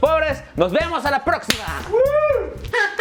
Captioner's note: woooh